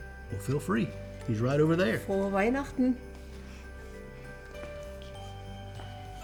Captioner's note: speaks in foreign language